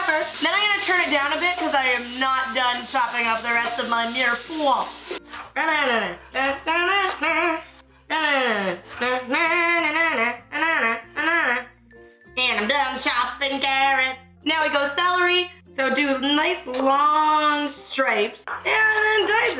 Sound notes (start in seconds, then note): 4.9 humming song